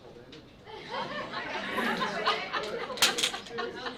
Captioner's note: laughter